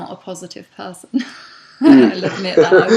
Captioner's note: both laugh